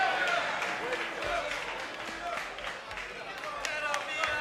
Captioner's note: crowd applauds